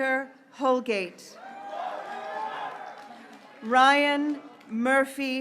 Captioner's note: graduates cheering